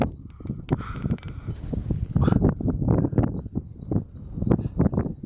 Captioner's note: heavy breathing